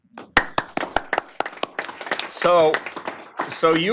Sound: applause

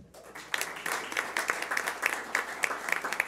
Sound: clapping

